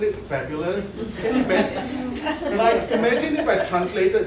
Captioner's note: laughter